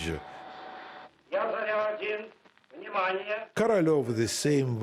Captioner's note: speaking Russian